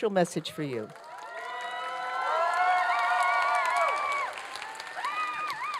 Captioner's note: applause and cheering